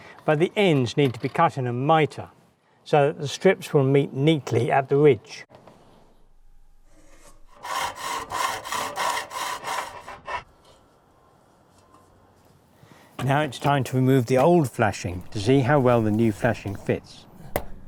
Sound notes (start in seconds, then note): 7.3 saw cutting; 17.6 hammer knocking